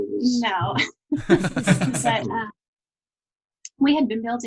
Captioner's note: laughing